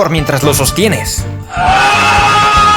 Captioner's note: poor little Feenie screaming